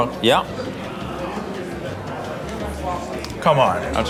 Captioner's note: patrons chattering